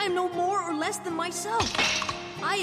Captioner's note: crack